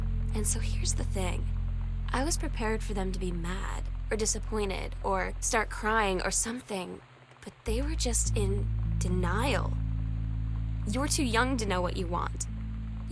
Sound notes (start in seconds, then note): none